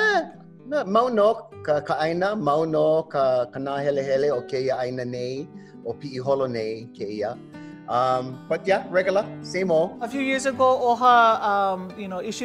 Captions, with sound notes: (in Hawaiian language) (in Hawaiian language) But, yeah, regular, same old. A few years ago, OHA issued a grant and you guys were the lucky receivers of that grant,